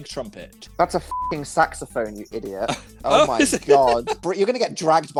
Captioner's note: both laughs